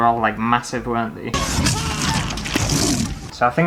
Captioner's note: roar!!!